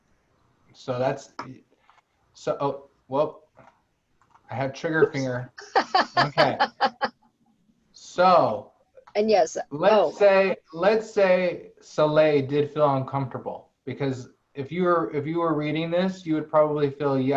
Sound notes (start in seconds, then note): 5.7 laughter